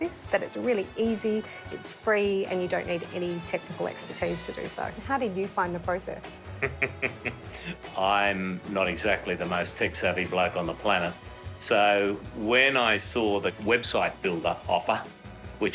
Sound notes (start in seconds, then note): 6.4 laughing